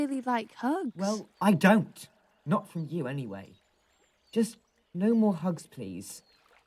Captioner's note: sighs